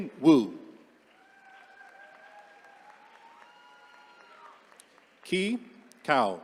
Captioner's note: attendees cheering